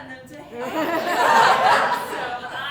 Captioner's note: audience Laughing